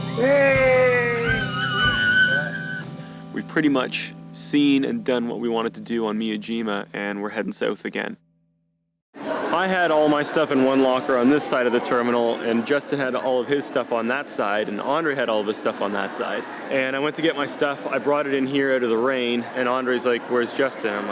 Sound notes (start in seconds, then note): 0.1 screams